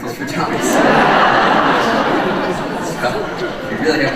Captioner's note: audience laughing